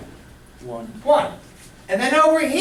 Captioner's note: voiceover